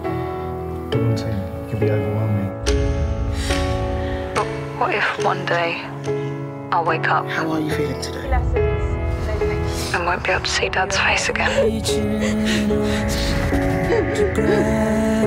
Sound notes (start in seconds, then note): 3.2 inhales sharply; 3.5 echoing ticks; 4.2 Ava on phone; 11.0 sobs